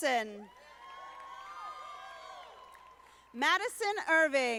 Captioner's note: audience applauding